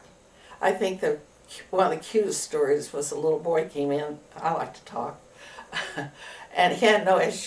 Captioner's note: laughs